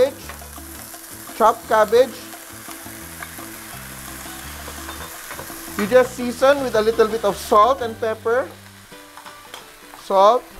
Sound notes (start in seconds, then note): 0.1 sizzle; 8.6 clang; 8.6 sizzle